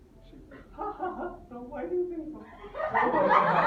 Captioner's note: imitating shrillish voice; laughter in audience